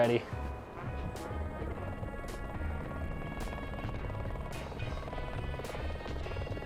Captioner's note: bright music; blades whirring